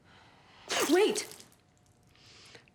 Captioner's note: liquid squirts